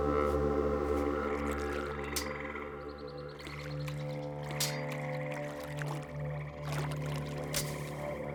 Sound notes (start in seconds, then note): 1.2 birds chirping